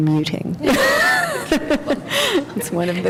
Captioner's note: laughter